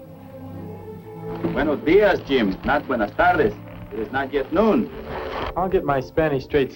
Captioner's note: correcting his spanish, in spanish